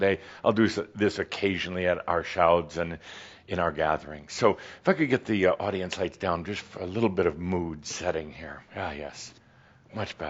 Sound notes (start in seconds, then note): none